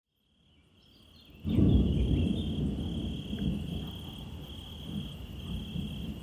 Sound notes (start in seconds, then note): 1.4 distant thunder